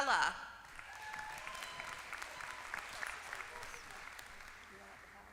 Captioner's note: applause